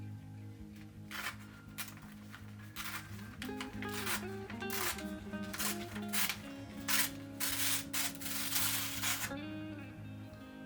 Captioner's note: paper ripping